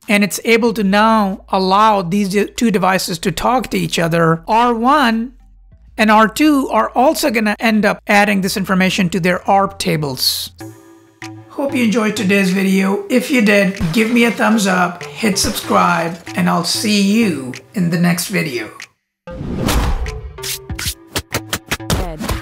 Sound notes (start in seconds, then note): 13.8 glass breaking; 19.7 pulsating music